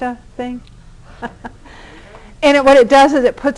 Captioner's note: laughter